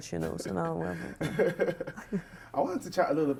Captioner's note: laughs